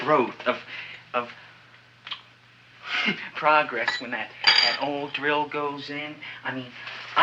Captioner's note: chuckles